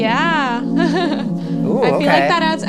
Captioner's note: laughs